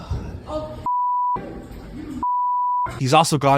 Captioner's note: beep